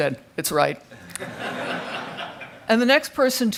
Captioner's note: crowd laughing